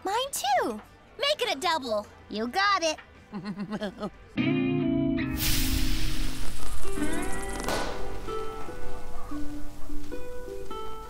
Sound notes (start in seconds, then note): 3.3 laughs; 6.4 popping; 8.6 soft music